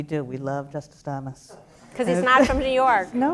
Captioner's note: laughter